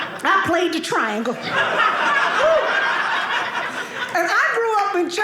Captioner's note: audience laughing